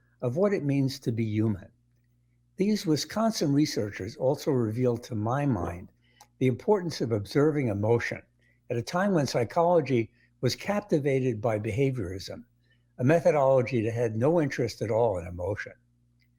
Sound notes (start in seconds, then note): none